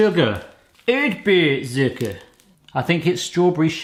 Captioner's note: speaking German